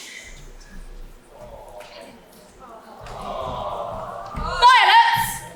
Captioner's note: audience: "awww"